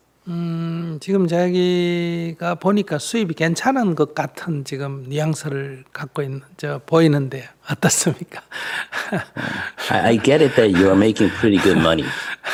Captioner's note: laughter